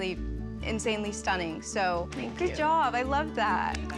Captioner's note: applause